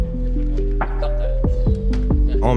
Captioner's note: indistinct chatter